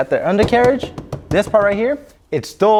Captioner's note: knocking on undercarriage